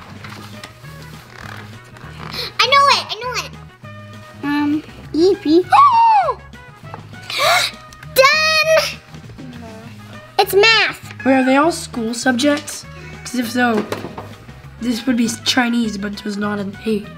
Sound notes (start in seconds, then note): 0.0 pages flip; 7.2 gasps